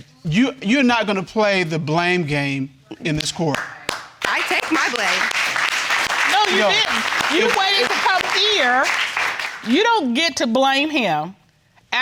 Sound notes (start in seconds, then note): 3.5 audience applauding